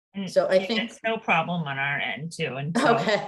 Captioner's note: laughs